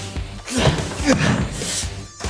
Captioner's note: groaning